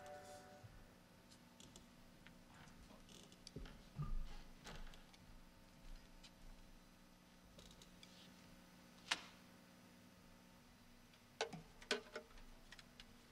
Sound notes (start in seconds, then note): none